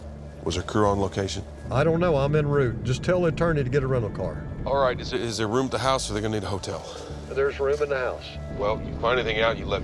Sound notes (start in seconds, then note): 4.6 on phone; 7.4 on phone